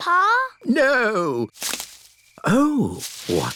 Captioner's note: rustling